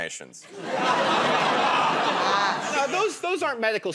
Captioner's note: laughter